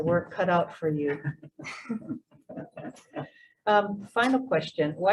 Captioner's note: laugh